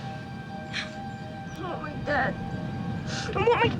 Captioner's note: crying